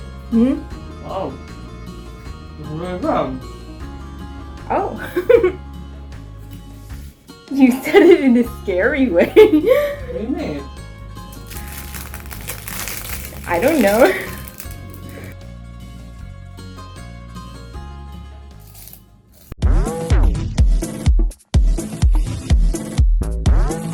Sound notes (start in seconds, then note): 1.9 laughter; 15.9 crunch; 21.7 crunch